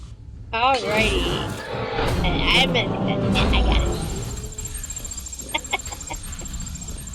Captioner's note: laughter